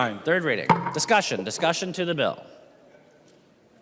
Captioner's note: gavel